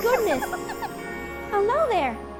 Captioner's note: little dragon cries